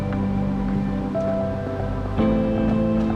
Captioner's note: footsteps